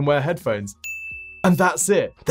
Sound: bell dinging

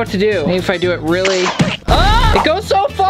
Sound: screams

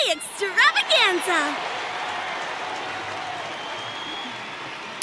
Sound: audience applauding

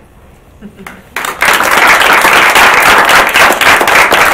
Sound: audience claps

